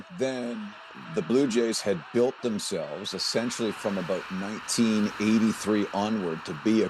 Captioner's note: cheers and Applause